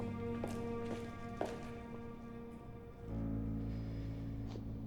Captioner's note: gentle music; shoes clacking